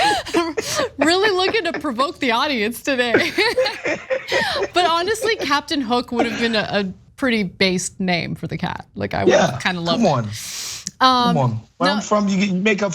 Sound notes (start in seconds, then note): 0.0 laugh; 3.0 laugh